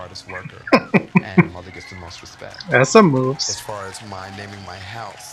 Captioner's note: chuckling